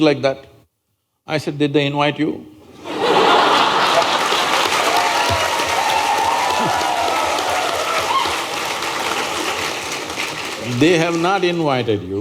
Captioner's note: laughter/Applause/Cheers